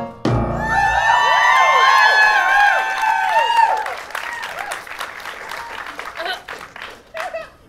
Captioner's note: audience cheers and applause